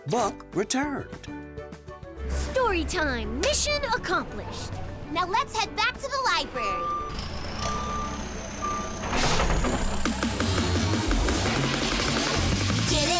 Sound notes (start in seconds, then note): 6.2 truck beeping; 9.9 upbeat music